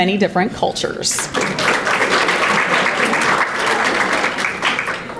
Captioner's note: audience applauding